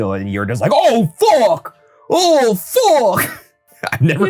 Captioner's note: chuckles